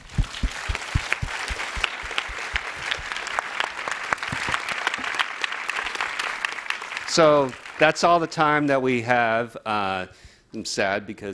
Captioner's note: applause